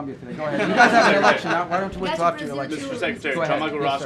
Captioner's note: laughter